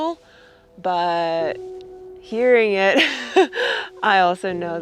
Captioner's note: giggling